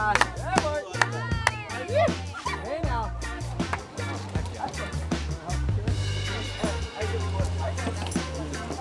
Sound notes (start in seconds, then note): 0.0 people chattering; 0.0 clapping